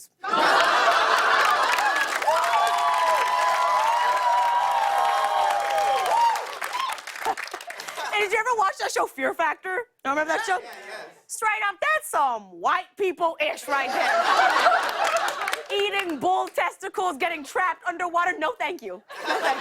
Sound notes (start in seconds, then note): 0.2 laughter; 2.1 cheers and applause; 6.1 laughs